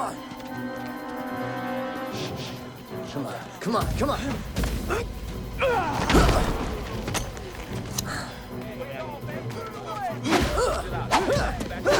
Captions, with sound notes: Come on. Come on, come on, come on! (fighters grunting)